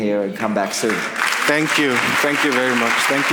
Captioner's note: audience applauds